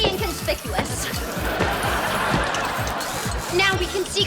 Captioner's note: audience laughs